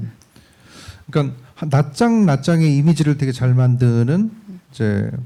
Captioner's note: speaking korean